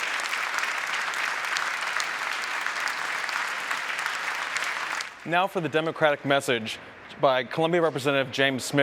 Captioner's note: applause